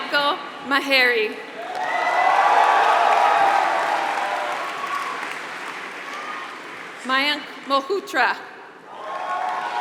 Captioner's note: applause; applause